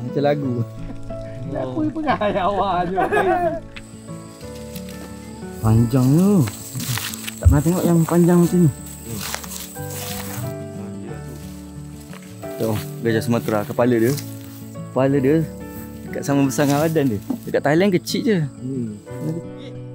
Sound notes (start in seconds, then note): 1.5 speaking Aceh; 1.7 laugh